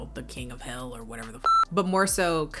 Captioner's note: beep